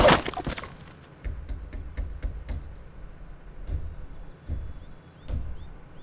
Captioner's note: engine in the background; birds chirping